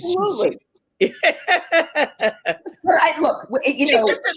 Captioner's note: laughing